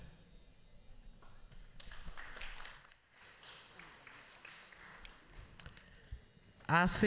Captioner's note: applause